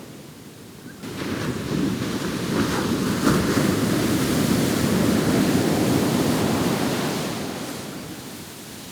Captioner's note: waves Crashing